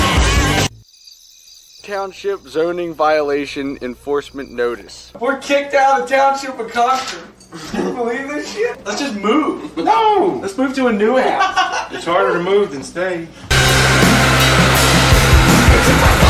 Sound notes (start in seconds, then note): 0.6 crickets